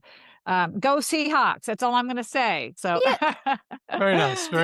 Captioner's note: laughs